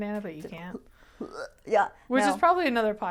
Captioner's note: gagging sounds